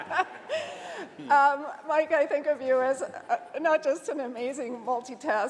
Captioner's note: laughter